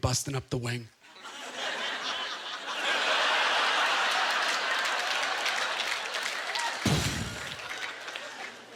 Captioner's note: audience laughter